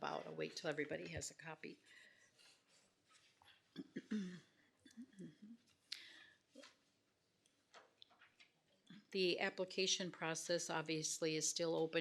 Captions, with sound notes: I'll wait 'til everybody has a copy. (clears throat) The application process, obviously, is still open